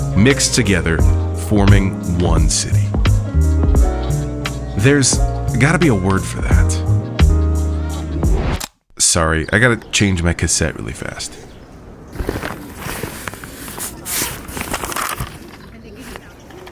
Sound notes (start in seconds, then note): 7.8 air whooshing; 12.0 objects rustling